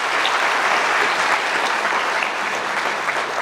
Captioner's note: audience applause